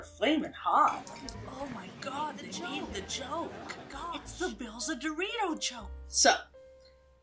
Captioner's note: overlapping voiceovers of voice